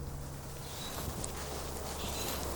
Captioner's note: birds singing